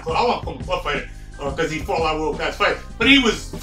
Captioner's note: stutters